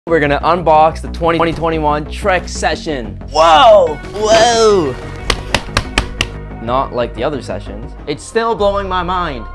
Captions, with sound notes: - We're going to unbox the 2021 Trek Session, woah! Whoa! (smacking noises) Not like the other sessions. It's still blowing my mind.